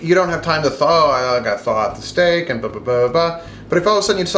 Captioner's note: playfully mumbles